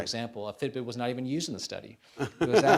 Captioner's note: laughs